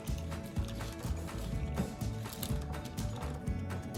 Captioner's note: chomp